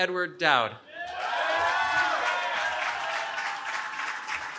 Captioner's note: cheering